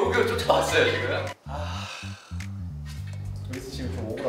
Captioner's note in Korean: 깊은 한숨